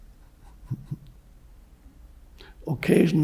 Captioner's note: Eckhart giggles